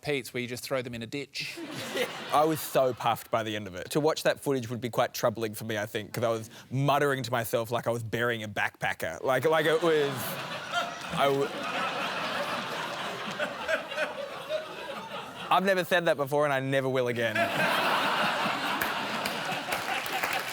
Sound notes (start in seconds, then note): 12.0 laughter; 17.3 laughter and applause